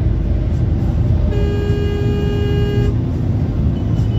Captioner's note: dashcam driver honks